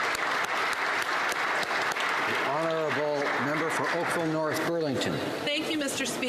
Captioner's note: applause